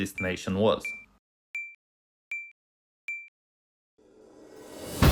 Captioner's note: beeping; slow dramatic music